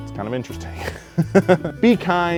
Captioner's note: laughing